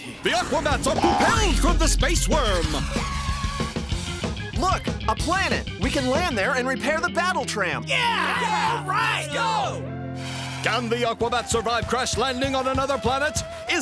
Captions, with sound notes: The Aquabats! are propelled from the space worm. Look. A planet. We can land there and repair the Battle Tram. (cheering) Can The Aquabats survive crash-landing on another planet?